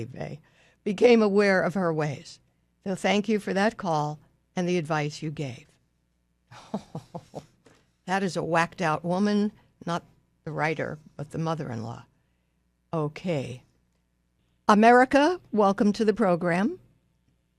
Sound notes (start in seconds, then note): 6.5 laughs